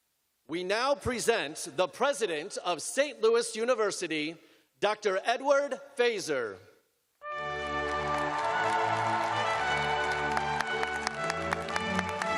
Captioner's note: cheers and applause